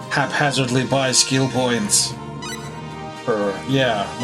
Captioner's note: none